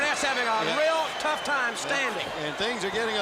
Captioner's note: crowd cheering